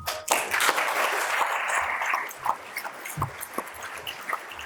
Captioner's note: audience applauds